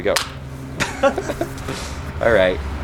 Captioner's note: laughing; banging